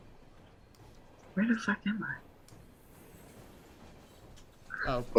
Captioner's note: beep